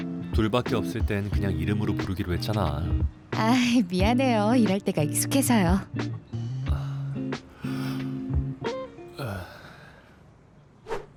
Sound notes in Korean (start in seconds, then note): 7.2 하품